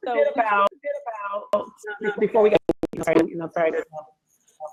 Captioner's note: audio echoes